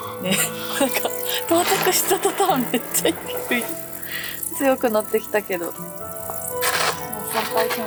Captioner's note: laughs; laughs